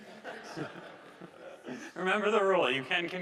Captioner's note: audience laughing